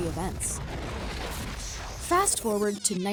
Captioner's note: fire roaring